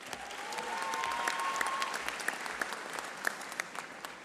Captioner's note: audience applauding